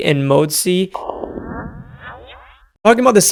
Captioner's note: electric whooshing